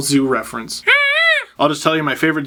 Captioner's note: strange bird noise